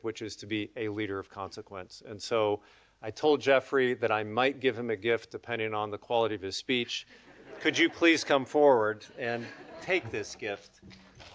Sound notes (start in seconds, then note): 7.2 audience laughing